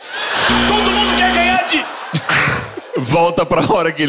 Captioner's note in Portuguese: campainha